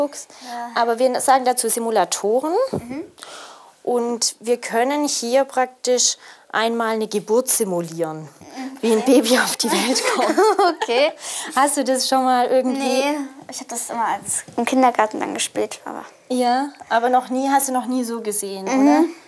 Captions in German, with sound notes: Ja. - Aber wir sagen dazu Simulatoren. Und wir können hier praktisch einmal eine Geburt simulieren. Okay ... - Wie ein Baby auf die Welt kommt. (Sie lachen.) Hast du das schon irgendwie ... Nee ... Ich hab das immer im Kindergarten gespielt, aber ... Ja, aber hast du noch nie so gesehen, oder? - Mhm.